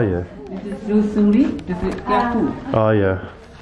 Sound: speaking in foreign language

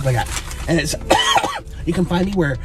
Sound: coughing

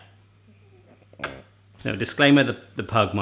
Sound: kissing

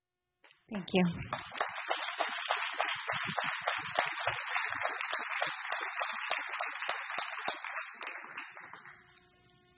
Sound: audience applause

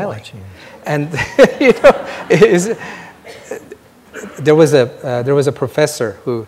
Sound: laughs

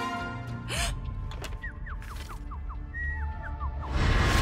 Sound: gasps; Vucub whistles birdsong; continues whistling

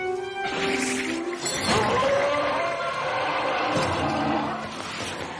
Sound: monster yowling

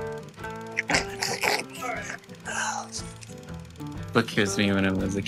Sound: mimics choking sounds

